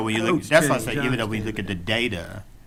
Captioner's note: speaking quietly